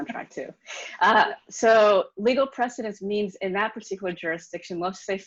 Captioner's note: laughs